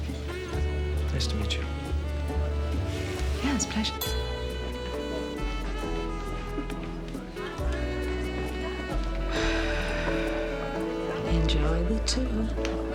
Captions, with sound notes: - Nice to meet you. - Yeah, it's a pleasure. (sighs) Enjoy the tour.